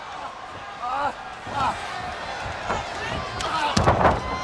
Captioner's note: wrestlers grunting